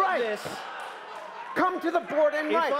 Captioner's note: applause